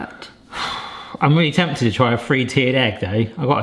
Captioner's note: sighs